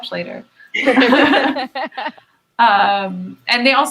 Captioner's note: both laughs